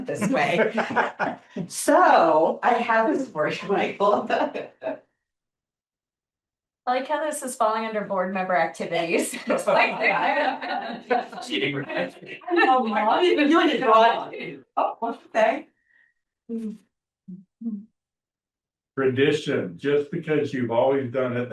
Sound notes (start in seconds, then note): 15.0 laughter